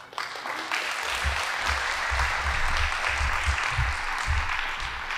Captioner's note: audience applauding